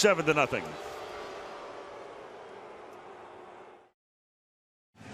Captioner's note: crowd boos